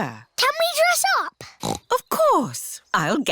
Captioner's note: snorts